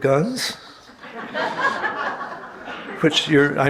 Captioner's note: audience laughing